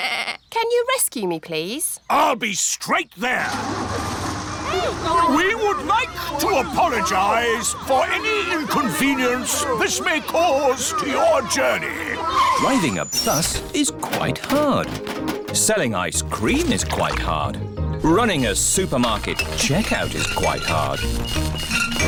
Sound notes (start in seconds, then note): 0.2 bleats; 4.4 all grumble; 21.8 items clinking